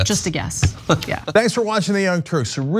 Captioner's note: laugh